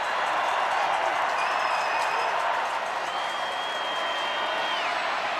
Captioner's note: crowd cheering